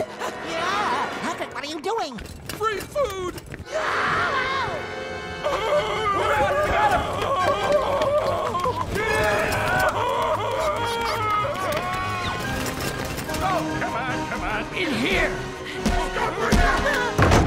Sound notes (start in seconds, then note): 3.7 screams; 5.4 yells; 8.9 all shouting